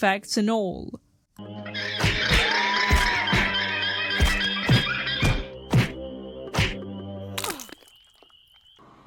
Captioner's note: punching noises